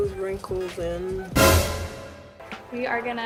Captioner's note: dramatic noise